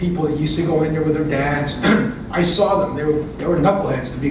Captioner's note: cough